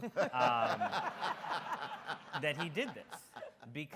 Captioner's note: audience laughs